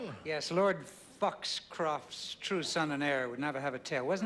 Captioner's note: british accent